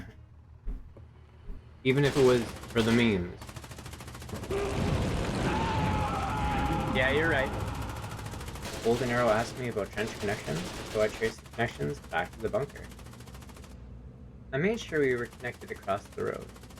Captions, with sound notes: Even if it was, for the memes. *machine gun fire* *intense fire burning, men screaming in agony* Yeah you're right. *machinegunfire* Goldenarrow asked me about Trench connections, So I traced the connections back to the bunker. I made sure we were connected across the road.